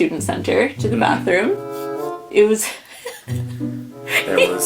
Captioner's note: giggles